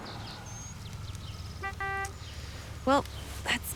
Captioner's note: horn beeps